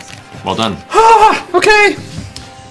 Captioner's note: high-pitched noises